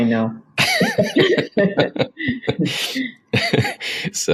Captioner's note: both laugh